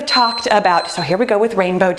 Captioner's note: beeping